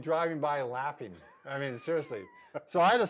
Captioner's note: laughing